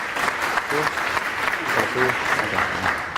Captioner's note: applause